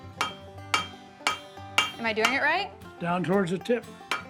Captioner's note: hammer striking metal